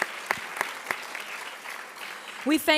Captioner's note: applauds